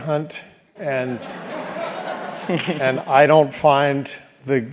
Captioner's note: laugh